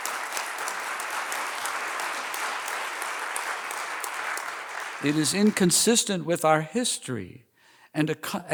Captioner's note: applause